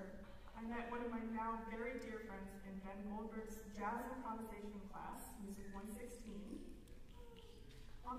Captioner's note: none